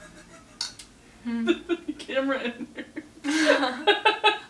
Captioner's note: laughs